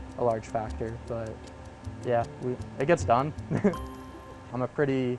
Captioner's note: laughs